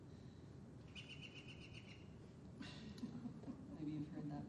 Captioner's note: recorded bird chirping